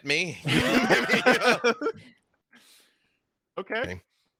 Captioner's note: laugh